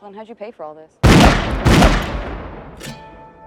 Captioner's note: gunshots